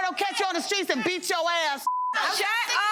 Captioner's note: beep